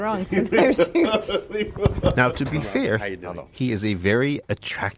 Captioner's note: laughs